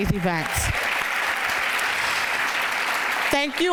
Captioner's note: applause